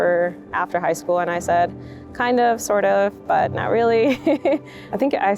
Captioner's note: chuckles